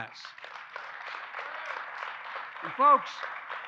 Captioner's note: applause